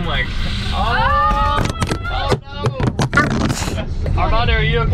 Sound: screaming

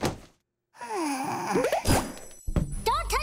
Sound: sighing

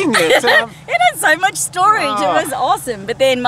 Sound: laughs

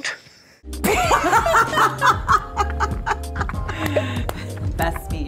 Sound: everyone laughing

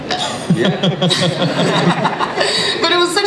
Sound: Chris laughs

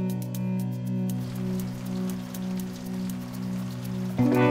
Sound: water flowing

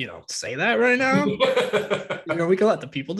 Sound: laughing

